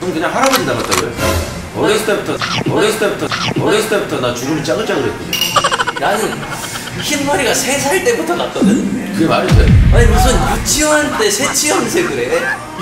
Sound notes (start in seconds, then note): 1.9 bites lips 2; 5.4 laughter